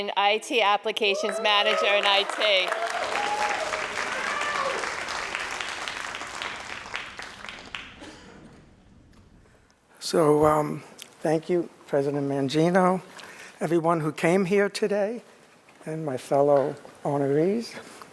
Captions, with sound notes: IT applications manager in IT. (crowd cheering and applauding) - So thank you, President Mangino, everyone who came here today, and my fellow honorees.